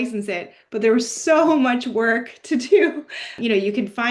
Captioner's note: laughs